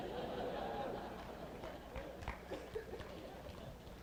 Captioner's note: laugther